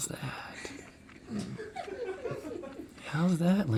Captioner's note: crew sniggering